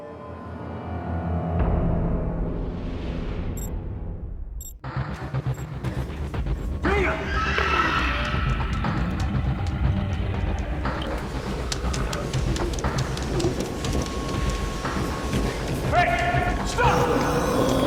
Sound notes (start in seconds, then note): 3.6 beeping; 7.2 dana screams; 10.9 footsteps